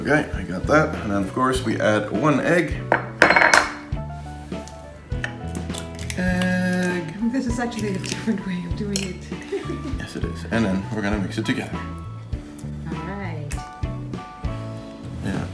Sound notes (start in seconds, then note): 3.4 background talk